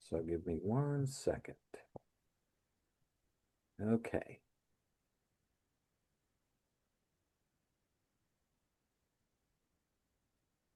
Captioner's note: silence